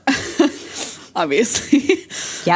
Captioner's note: laughs